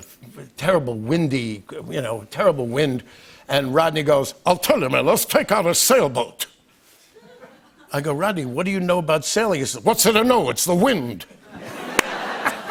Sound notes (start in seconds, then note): 5.9 normal voice; 11.4 laughter